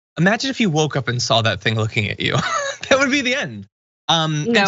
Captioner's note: laugh